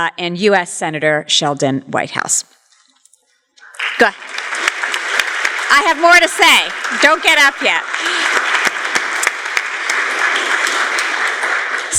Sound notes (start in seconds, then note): 4.2 applause